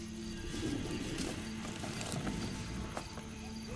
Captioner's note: faint growling